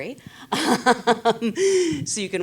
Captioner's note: laughs